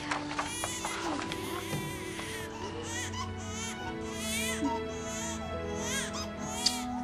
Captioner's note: <i> baby continues crying</i>